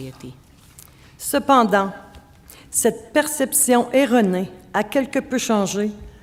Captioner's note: speaking French